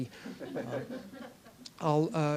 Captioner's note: laugher